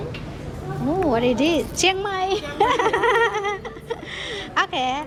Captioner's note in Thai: เสียงหัวเราะ